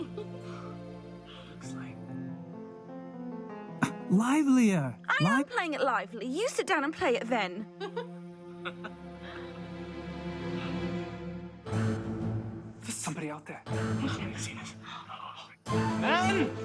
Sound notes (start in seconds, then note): 0.0 laughing; 7.7 both laughing